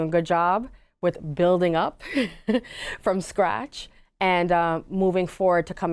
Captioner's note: giggles